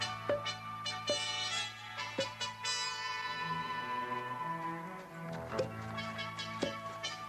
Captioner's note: upbeat music; fruit popping